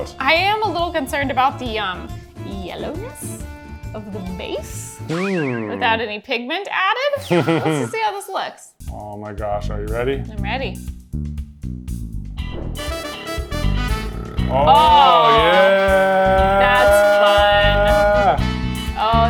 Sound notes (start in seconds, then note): 7.2 laughing; 12.3 jazz music